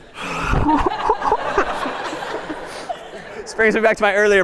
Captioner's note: laughter